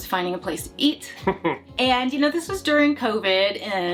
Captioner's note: laughs